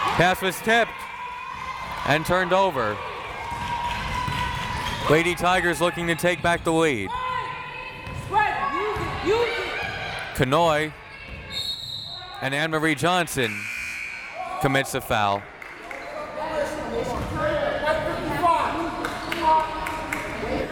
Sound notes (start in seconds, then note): 8.2 crowd members shouting; 13.4 whistle tweeting; 14.0 buzzer ringing; 16.7 crowd members shouting